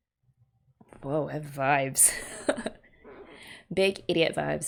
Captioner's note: laughs